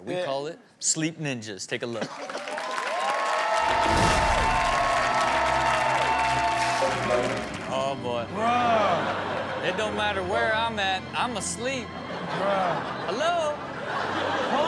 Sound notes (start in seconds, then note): 2.0 audience claps; 3.6 dramatic music plays; 11.9 audience laughs